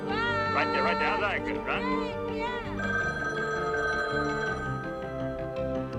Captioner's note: dramatic music; phone ringing